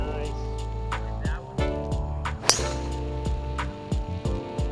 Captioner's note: jazz music; golf club whacking; jazz music